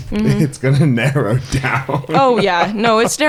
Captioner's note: laughing